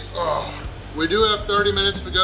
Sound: groans

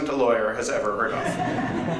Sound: laughter

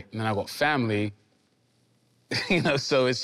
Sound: laughing amusingly

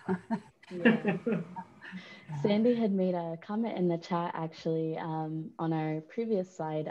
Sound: laughter

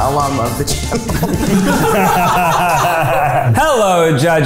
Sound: all laugh

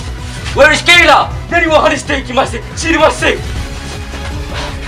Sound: japanese murmuring

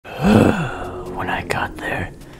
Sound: uggggh

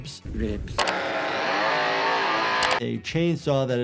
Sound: chainsaw buzzing

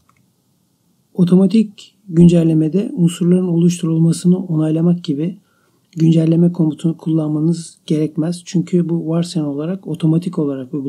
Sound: clicking OK

